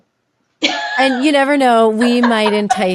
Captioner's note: laughing